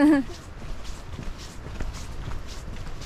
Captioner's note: soulless laughter